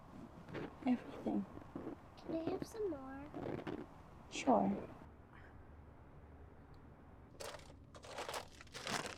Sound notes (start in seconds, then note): 4.5 paper rustling